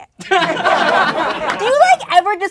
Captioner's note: laughing